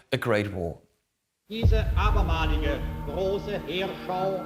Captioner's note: archive, German speech